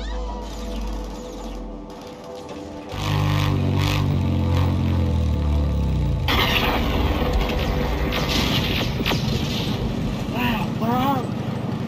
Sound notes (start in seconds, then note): 3.1 sound of a motorcycle pulling up